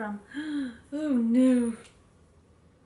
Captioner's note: gasps